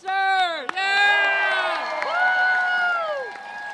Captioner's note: cheering